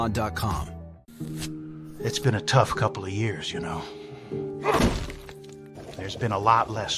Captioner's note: none